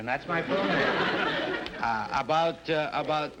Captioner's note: audience laughter